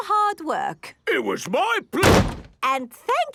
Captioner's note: slams